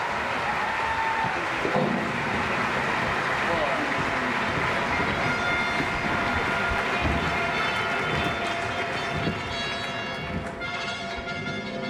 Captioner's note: audience Applause